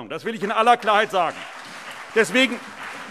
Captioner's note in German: Beifall CDU und BÜNDNIS 90/DIE GRÜNEN